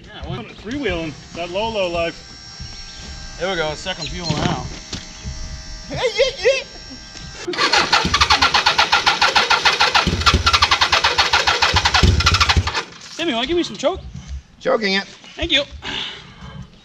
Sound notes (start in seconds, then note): 7.6 engine cranking